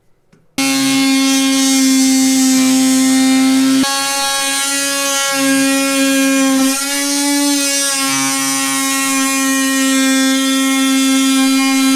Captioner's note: oscillating tool sound